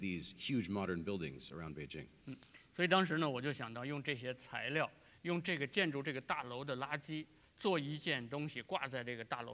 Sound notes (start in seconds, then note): 4.8 speaking in Chinese